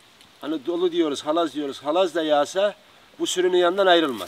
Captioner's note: fast rain